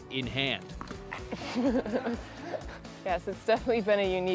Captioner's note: laughs